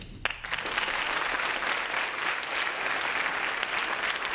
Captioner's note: applause